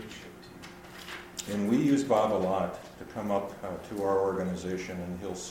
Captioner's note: voiceover